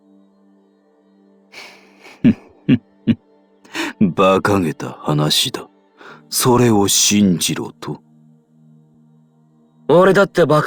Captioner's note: chuckle